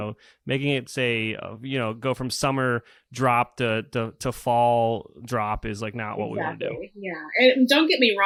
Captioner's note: laughs